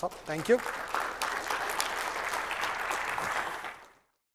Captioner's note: applause